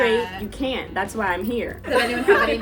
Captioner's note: women laughing